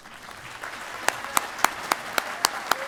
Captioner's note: applause